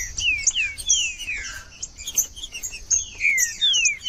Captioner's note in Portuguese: trinca ferro cantando